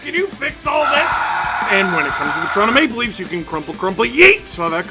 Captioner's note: screaming